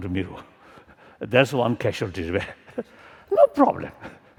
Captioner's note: laughter